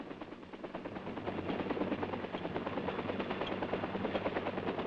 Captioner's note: helicopter whirs